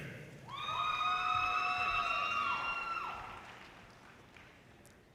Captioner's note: audience cheers and applause